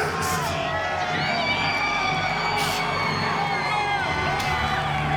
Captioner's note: crowd cheering